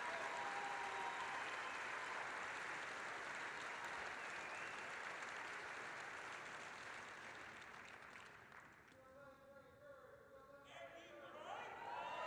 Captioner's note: applause